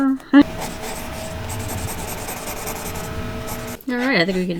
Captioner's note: loud vacuum